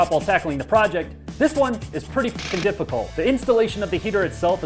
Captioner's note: jackhammer